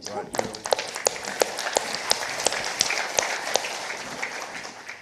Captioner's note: participants applauding